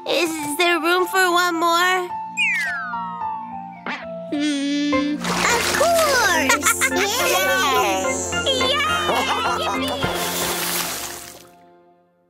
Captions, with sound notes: Is there room for one more? Of course. [giggles] Yay! [splash]